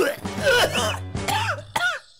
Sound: almost vomits; very dry cough; cough

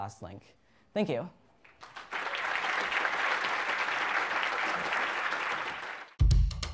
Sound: applause

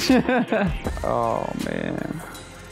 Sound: laughs

